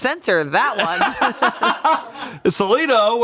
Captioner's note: everyone laughs